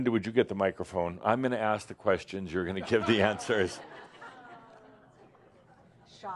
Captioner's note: some laughter